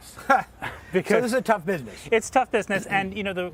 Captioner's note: laughing